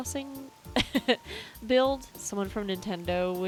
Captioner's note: laugh